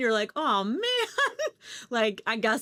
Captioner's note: chuckles